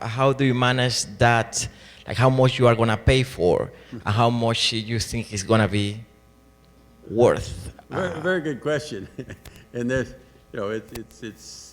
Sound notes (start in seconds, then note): 7.8 voiceover